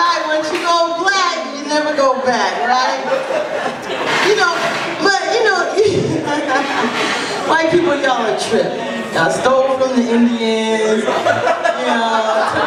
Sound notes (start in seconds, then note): 6.1 laughs